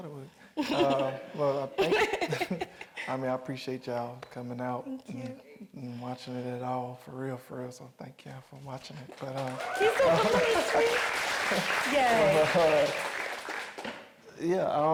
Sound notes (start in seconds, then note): 1.5 chuckling; 9.0 audience applauding